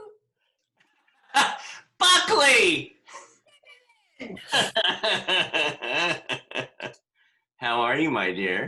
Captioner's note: laughter